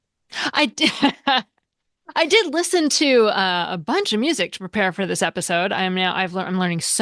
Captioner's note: laughs